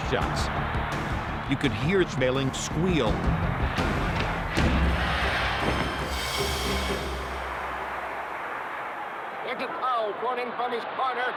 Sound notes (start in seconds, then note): 3.1 crowd cheering; 3.1 intense music